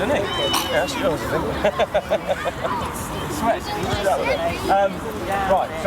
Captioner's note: laughter